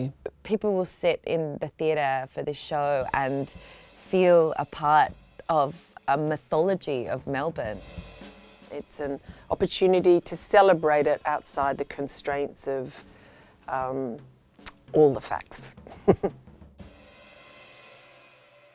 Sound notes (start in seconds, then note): 15.9 laughing